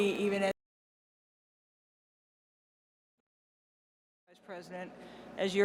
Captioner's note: audio break